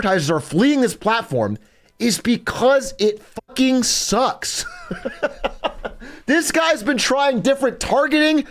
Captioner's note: laughs